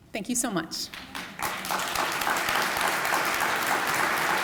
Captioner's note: applause